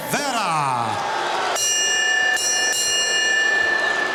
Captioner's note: bell ringing